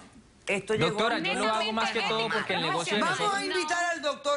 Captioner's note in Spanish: Hablan al unísono